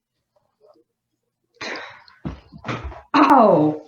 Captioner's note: stomp again